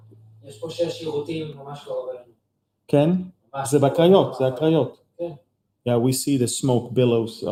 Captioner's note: speaking in Hebrew